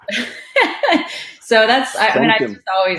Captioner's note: laughs